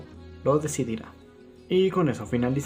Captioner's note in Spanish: Silencio